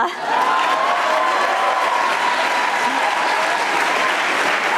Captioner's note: audience applauding